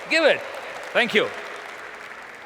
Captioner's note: applause